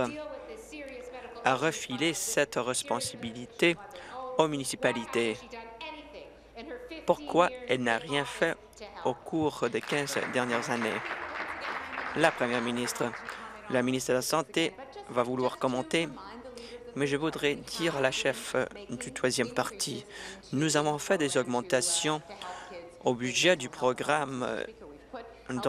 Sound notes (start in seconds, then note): 11.8 applause